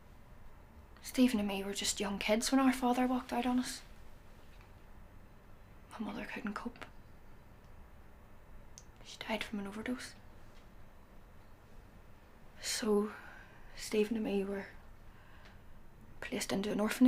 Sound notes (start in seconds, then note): none